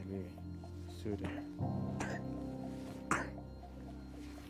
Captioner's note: coughs